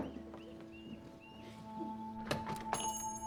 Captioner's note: bell jingles; tv playing quietly